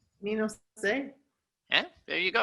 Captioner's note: speaking in foreign language